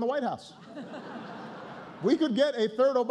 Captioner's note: laughter